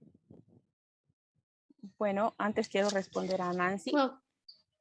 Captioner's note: speaking spanish